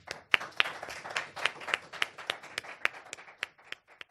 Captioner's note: applause